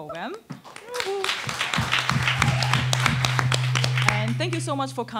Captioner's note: attendees applauding